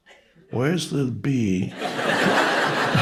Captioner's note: audience members laughing; chuckles